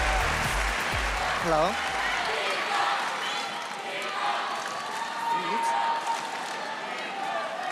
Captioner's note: cheers and applause